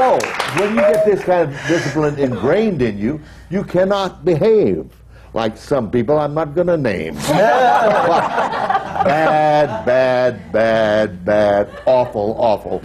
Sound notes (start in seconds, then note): 0.0 applause; 7.2 laughter